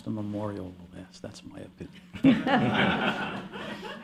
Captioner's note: laughter